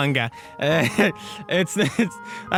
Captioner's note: chuckle